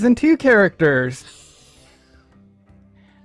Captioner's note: breaths in through teeth painfully